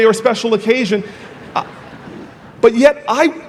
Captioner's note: audience laughing